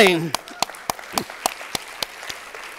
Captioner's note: applause